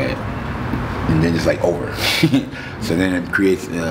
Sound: laughing

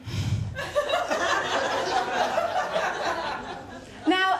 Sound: laughter

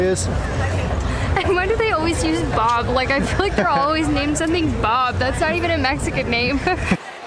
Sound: laughter

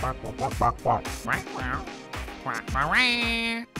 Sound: angrily squawking; apologetically squawking; commanding squawk

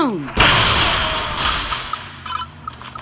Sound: explosion, moaning

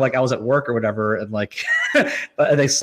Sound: laughs

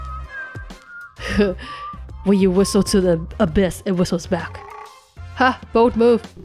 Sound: chuckles

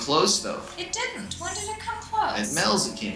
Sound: voiceover

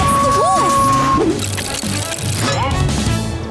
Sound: howling

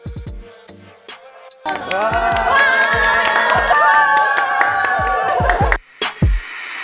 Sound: the staff's excited celebration and cheers!

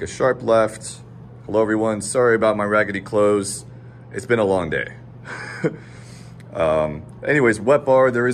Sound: chuckles

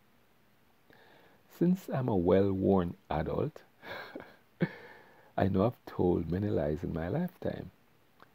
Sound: haha

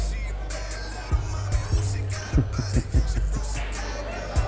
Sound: chuckles

